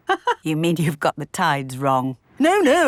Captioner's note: laughs